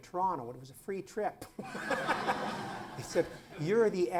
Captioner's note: laughter